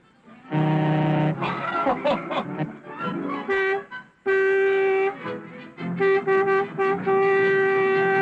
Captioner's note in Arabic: بوق انفجار ركلة